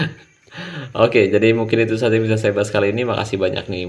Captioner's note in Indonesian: tertawa